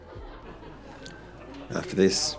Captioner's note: guests laugh